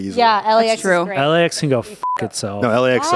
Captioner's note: beep